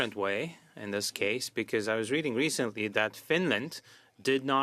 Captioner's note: speaking French